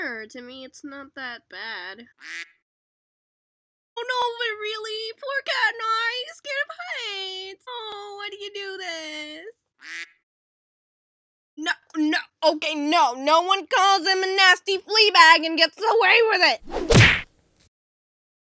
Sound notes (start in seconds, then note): 2.2 quack; 9.8 quack; 16.9 bam!